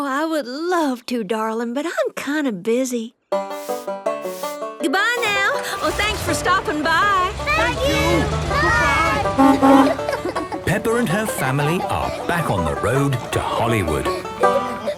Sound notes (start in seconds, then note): 10.2 honking